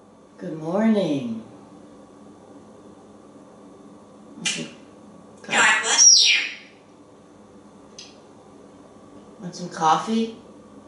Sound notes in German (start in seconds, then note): 4.2 sneezing